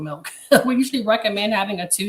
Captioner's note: chuckles